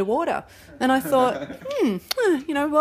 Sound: laughs

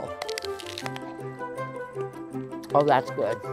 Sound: apple crunching

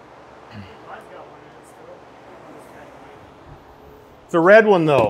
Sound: faint conversation

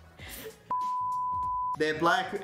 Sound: beep

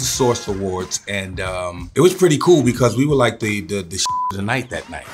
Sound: beeps

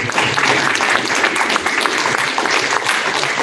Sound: applause

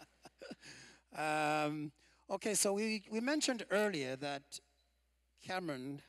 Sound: laughter

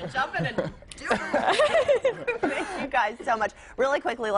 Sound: laughter

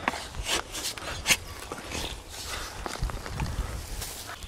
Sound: rustling

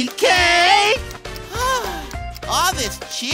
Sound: sighing

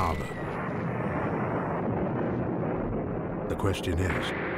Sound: explosions booming

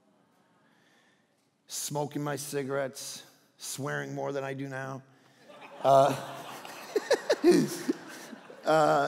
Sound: all laughing

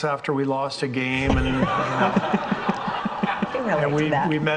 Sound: all laughing

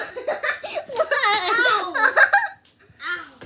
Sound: laughs

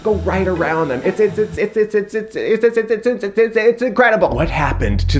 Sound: stammers

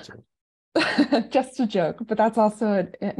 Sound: laughs

